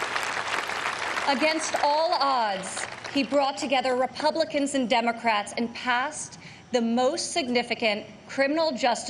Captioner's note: applause